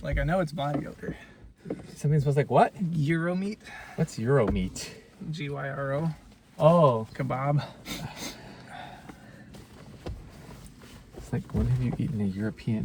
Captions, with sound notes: Like, I know it's body odor... Something smells like what? Gyro meat. What's "Euro meat"? G-Y-R-O. Oh! Kabob. [sniffing] It's like, when have you eaten a European?